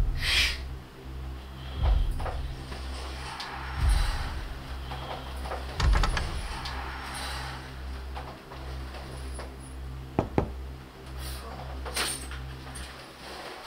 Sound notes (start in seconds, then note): 0.1 foreboding minimal music; 5.8 knob rattling; 10.2 door knocking